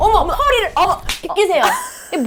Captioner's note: slap